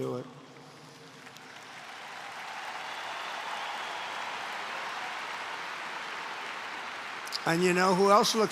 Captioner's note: applause